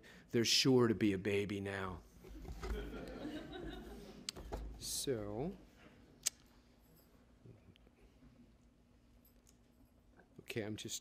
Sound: laughter

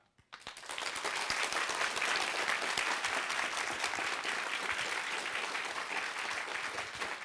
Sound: applause

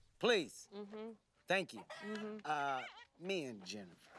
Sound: clucking

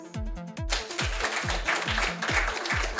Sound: applause

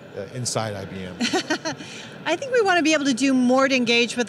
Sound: laughing

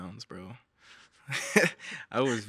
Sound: all chuckling

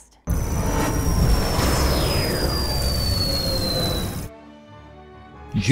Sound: sound Effects

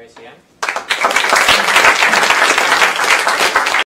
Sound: applause

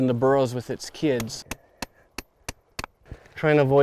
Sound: chiseling

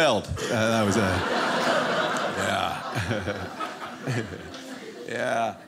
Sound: audience laughing

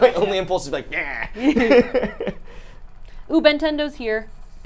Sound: laughs

